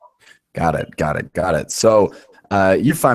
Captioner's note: voiceover